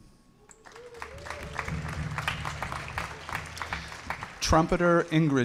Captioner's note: audience applauding